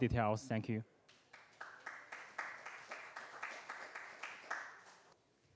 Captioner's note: applause